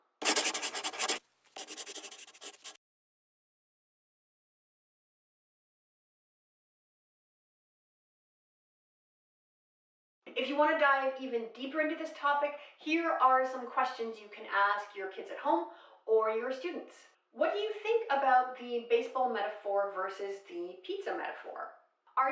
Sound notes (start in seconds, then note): 1.5 scribbling; 3.6 silence